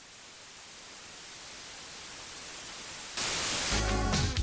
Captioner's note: static hissing